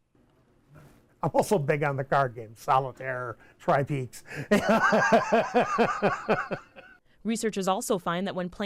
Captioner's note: laughs